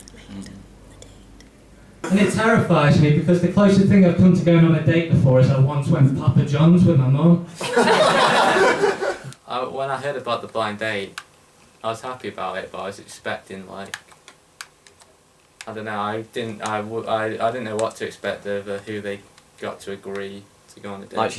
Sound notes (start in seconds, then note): 0.2 both whispering; 7.5 laughter